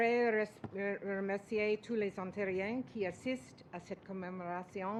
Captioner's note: speaks French